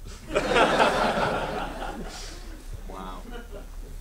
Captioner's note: laughing